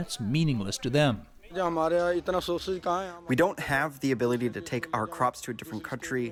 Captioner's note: through translator